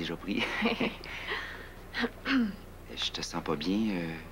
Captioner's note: Rires